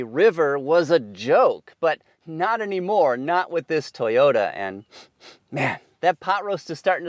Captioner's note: sniffs